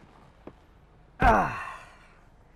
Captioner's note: le groans